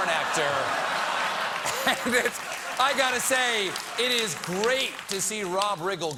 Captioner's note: laughter